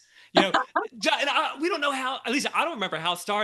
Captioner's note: laughing